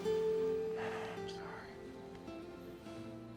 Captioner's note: sighs